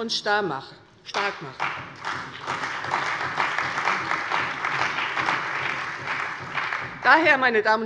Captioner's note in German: Beifall bei der CDU und dem BÜNDNIS 90/DIE GRÜNEN